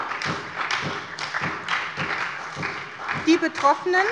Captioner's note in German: Beifall bei der SPD und der FDP